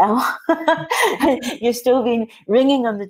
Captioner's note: laughing